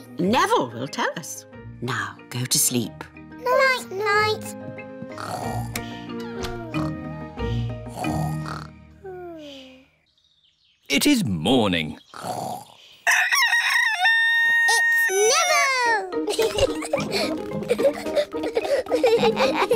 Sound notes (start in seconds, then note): 5.3 both snoring; 13.0 neville crows; 16.2 both giggling